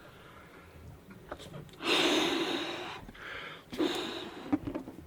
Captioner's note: exhaling deeply